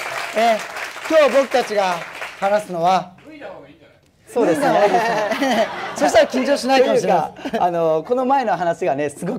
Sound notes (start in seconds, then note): 4.4 laugh